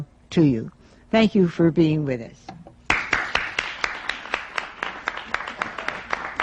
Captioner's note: applause